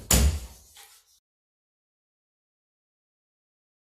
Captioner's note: gavel banging